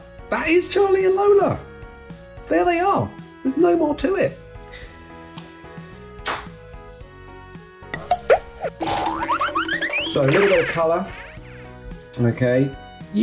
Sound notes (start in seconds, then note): 6.2 clap; 8.0 comical sound effect